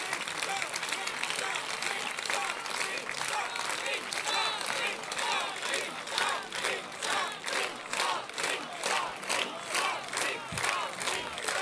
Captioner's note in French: Applaudissements